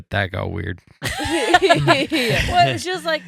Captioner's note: laughing